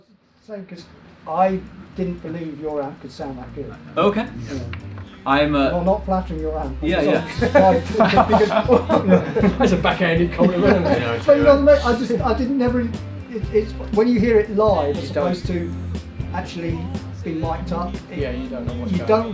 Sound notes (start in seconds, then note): 8.7 band laughs